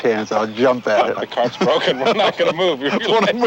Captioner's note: both laughing